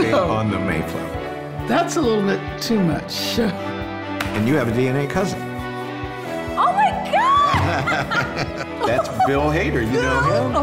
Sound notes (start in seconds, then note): 7.4 both laughing